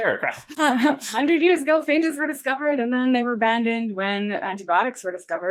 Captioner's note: recites